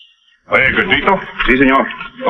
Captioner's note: speaking in foreign language